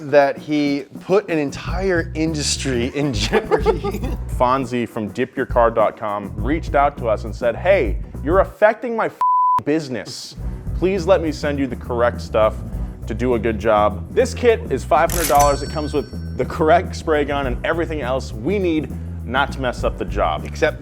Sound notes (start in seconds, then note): 2.7 laughing; 9.2 beep